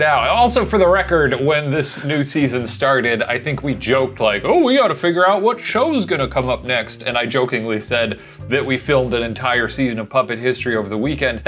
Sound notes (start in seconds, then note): none